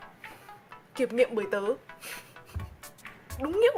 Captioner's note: pffft